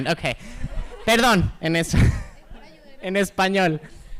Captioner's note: speaking spanish